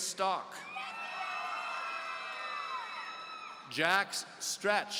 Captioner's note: audience cheering